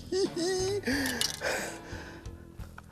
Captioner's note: giggling; sighs